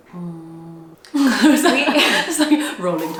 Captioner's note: laughs